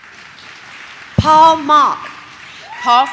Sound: audience claps; audience cheers

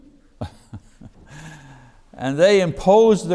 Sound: chuckles

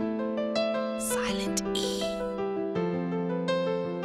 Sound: whispering

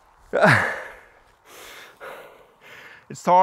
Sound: grunts

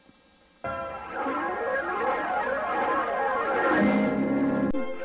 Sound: swirling sounds resuming

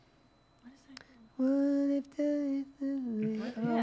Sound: hums

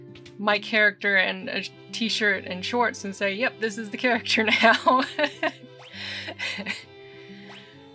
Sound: laughing

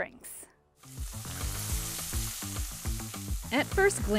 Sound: grill sizzling; light upbeat music

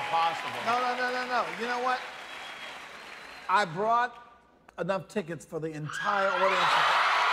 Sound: cheers and applause

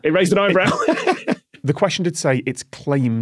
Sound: laughs

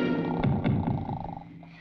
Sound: snoring

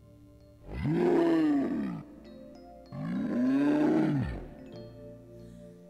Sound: bear growling

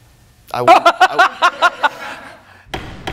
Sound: laughs

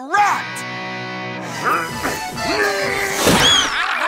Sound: grunting; screaming

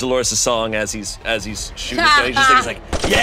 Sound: laughing; machine gun firing

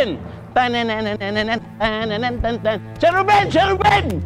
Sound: cheerful chant

